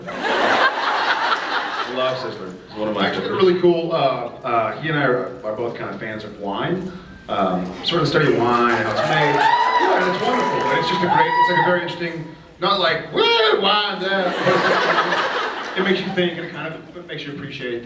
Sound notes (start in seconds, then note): 0.2 laughs; 8.2 cheers; 13.1 drunkenly; 14.2 laughs